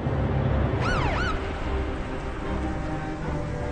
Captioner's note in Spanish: Suena sirena